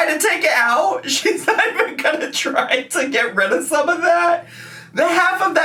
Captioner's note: laughs